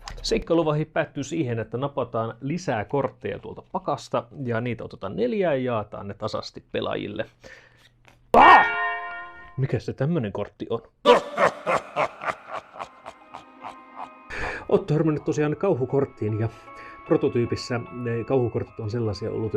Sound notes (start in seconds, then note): 11.0 ominous laughter and music